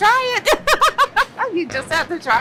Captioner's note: laughs